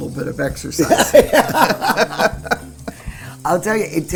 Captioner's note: laughter